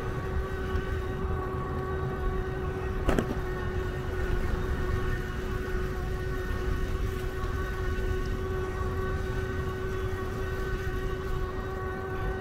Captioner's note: motor Sound